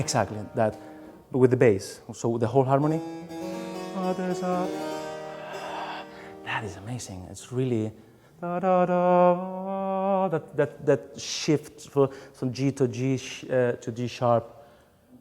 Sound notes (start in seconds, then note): 0.0 harpsichord music; 5.4 sigh; 9.1 singing